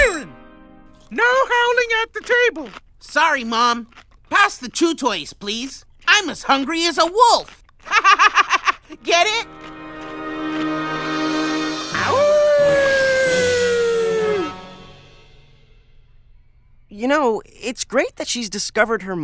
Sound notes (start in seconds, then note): 7.8 laughs; 11.0 howls